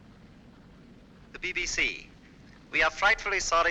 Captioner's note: radio broadcast